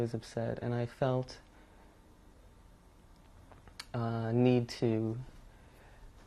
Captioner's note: pauses for 3 seconds